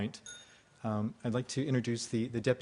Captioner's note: ding